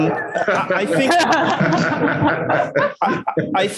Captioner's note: laughing